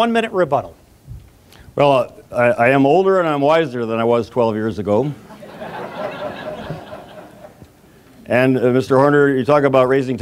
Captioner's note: audience laughs